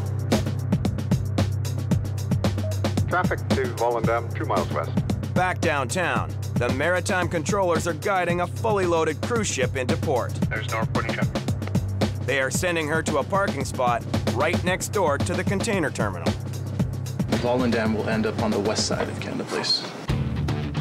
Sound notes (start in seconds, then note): 0.1 cheerful upbeat music; 2.6 machine beeps; 3.6 man Over Radio; 20.1 fast-paced rock music